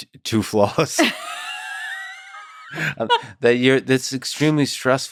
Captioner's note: both laughing